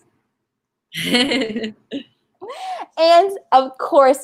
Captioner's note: laughing